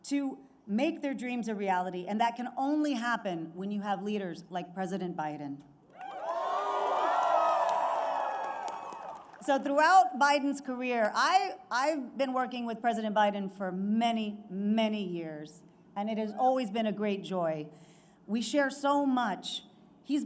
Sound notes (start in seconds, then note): 6.0 applause